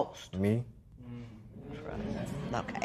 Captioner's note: spectators murmur